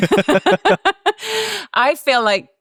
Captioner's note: laugh